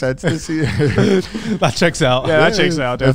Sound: all laughing

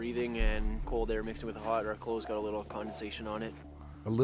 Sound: voiceover

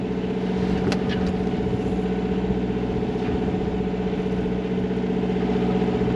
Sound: diesel engine sounds

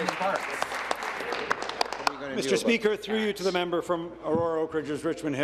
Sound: applause

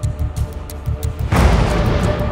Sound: thunder crashes

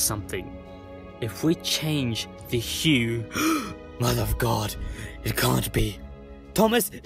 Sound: gasp

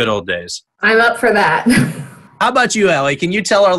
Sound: chuckles

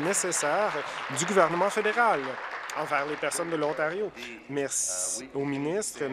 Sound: applause

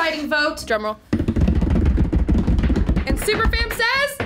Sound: table rumbling

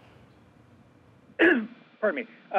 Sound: clears throat

